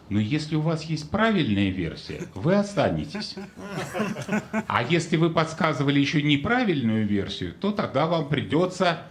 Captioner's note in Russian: смех